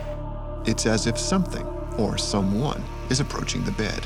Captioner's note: voiceover